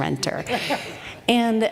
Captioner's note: laughter